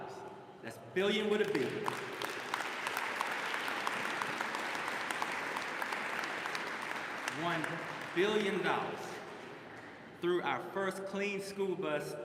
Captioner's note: applause